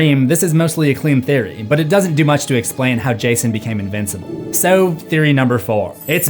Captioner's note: none